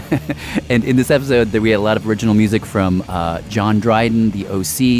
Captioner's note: laughs